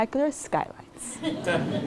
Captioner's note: laugh